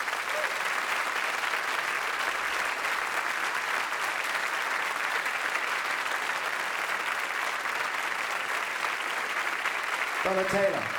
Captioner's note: audience applauding